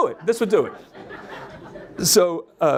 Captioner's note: audience laughs